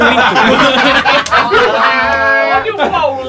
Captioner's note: risos